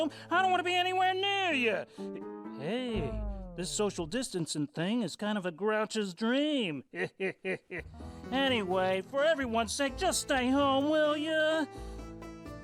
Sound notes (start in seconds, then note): 6.9 \chuckles\